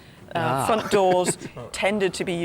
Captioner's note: Tony laughs